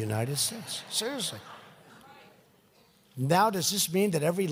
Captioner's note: laughter